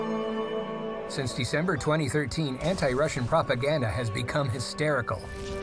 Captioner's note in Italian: fiamme scoppiettanti